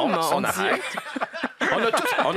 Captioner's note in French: rires